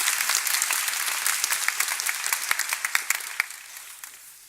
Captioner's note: applause